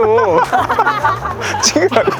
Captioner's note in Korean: 웃음